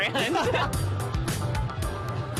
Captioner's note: both laugh